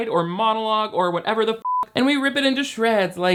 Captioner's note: beep